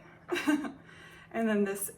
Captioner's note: laughs